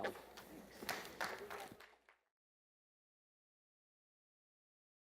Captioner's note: attendees applause